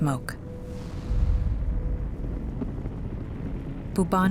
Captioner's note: fire crackling